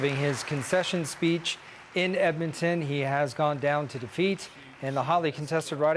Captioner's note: cheers and applause